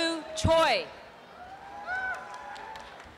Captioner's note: applause and cheering